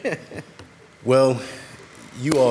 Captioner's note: laughing